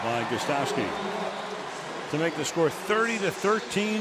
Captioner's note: pa announcement